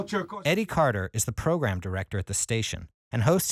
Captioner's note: voiceover